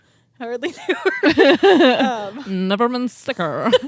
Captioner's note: both laughing